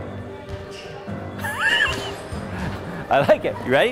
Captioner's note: laughs